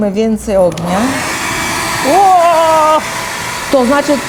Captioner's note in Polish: warkot suszarki do włosów